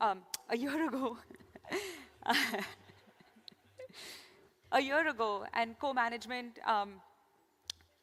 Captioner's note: laughter